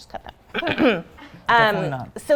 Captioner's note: clearing throat